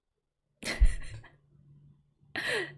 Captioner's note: laughs